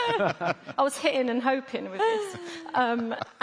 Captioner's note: laughter; laughter